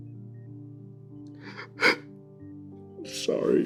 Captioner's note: deep sigh